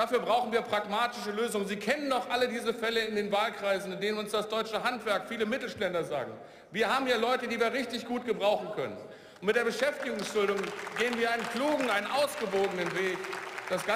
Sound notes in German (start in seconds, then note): 11.1 Beifall